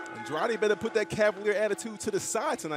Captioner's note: bell ringing